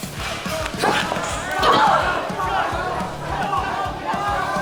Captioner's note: Mariposa lets out a loud grunt from Maddy’s hit